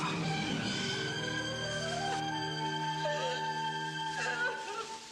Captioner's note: dramatic music; Carrie crying